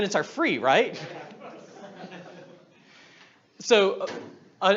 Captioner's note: audience laughs